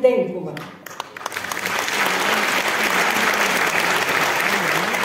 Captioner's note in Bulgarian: аплодисменти